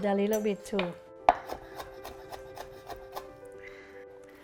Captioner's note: knife chopping